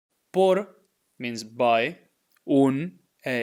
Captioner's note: speaking in Spanish